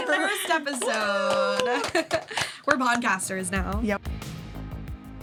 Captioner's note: hosts applaud